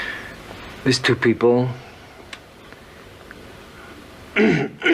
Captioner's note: clears throat